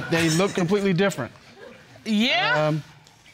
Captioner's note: audience chuckles